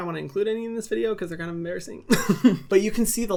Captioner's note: laughs